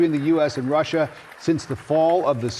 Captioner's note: cheering